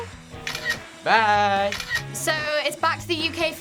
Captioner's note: camera snaps